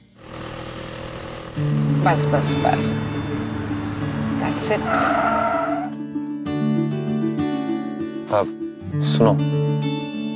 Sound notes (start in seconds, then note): 0.0 car stopping; 5.2 car screeching; 6.2 radio playing